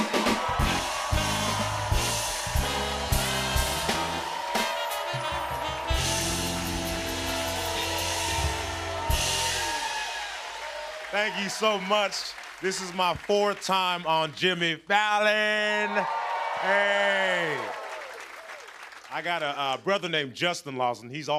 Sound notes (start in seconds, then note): 0.2 cheers and applause; 15.2 cheers and applause